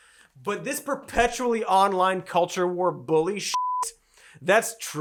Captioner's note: beeps